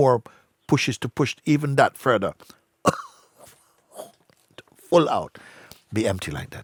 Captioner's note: three sharp exhales